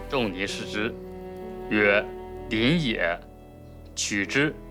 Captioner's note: hablan un idioma extranjero